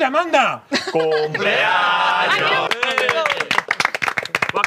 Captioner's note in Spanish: aplauden